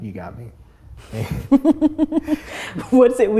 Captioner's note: both laugh